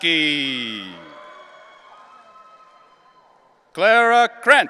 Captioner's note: audience cheering